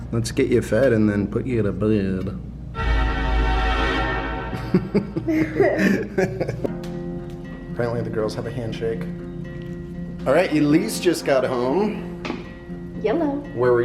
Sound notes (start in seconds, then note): 4.5 laughs; 4.5 scary music